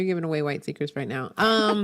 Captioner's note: laughs